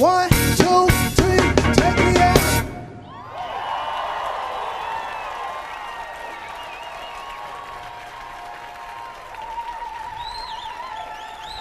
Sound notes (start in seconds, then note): 0.0 drum beat music; 2.8 audience cheering